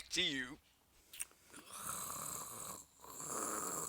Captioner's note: sound of Leia snoring